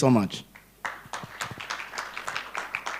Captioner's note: applause